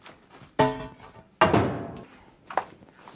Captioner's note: clacking